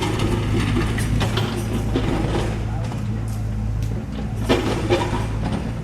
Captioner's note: truck sound